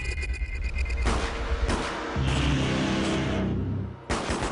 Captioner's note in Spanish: Disparos